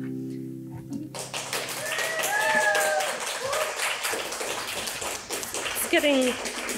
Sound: audience clapping

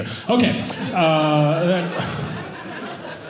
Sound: audience laughing

